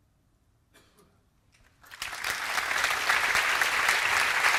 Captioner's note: applause